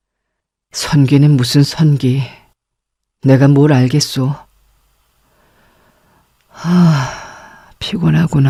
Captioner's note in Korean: 한숨